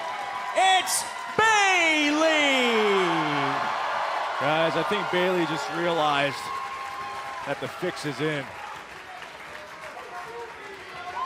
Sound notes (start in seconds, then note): 3.6 cheers & applause